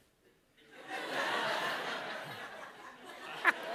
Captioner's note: laughter